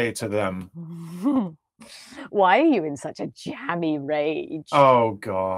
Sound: chuckles

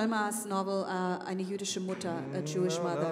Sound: speaking foreign language

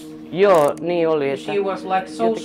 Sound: speaking in a foreign language

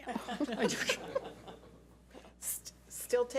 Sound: laughs

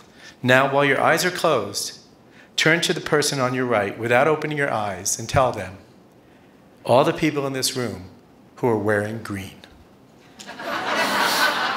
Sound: laughter

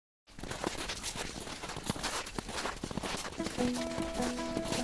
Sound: snow crunching; soft music

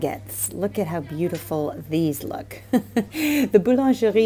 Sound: laughing

